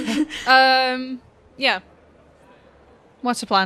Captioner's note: laughs